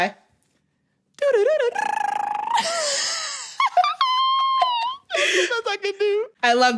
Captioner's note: laughing